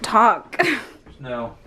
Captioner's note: laughs